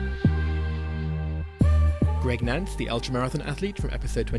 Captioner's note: voiceover